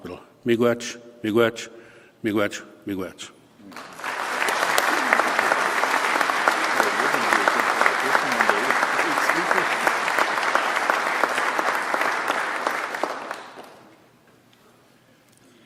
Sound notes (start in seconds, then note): 9.7 applause